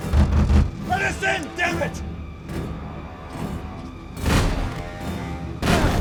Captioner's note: none